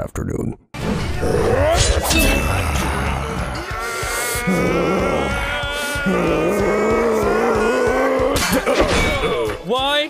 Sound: even more anime grunts

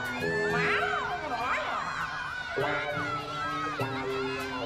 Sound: Audience Calling "Pilchard"

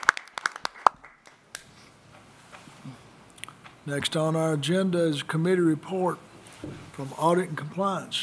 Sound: applause

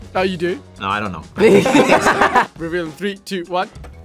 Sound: group laughs

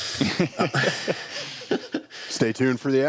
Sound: laughs

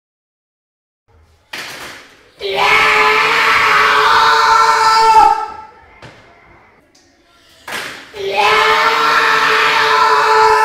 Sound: scream

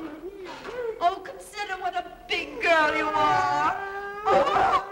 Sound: none

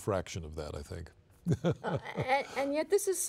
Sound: laughing

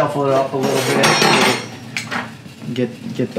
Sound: clanking

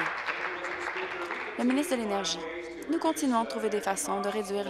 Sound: applause

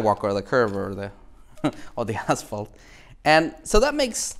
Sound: laughs

